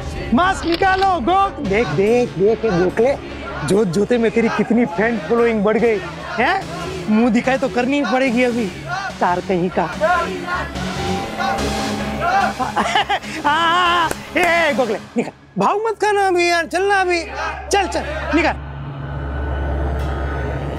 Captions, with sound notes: Remove your mask, Go... Look, Gokhale! Your fanbase increased suddenly. You'll have to show your face now. You are no less than a star! [laughing] Yes! Gokhale, come on! - Please don't be so difficult. - Come on, remove it! - Chirag! [suspenseful music]